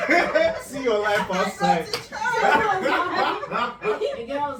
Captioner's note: laughs